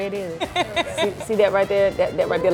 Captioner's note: laughs